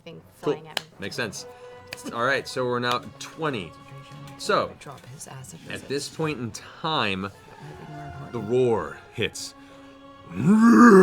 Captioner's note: roaring